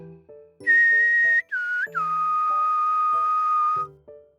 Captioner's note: tweet tweet tweet